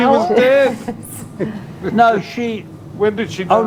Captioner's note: laughter